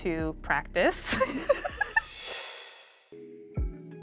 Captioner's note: laughing; gentle music